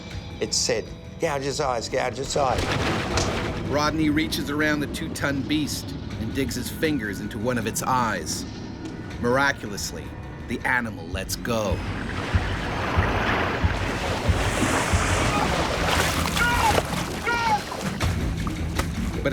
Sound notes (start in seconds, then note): 3.5 voiceover; 11.8 splashing; 14.6 gasps; 16.4 shouting